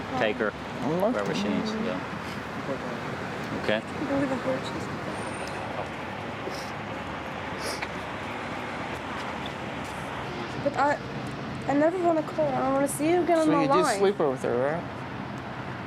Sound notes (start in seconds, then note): 4.0 whispering